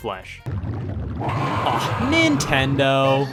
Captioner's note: Bowser screams